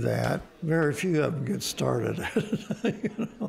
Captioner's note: laughing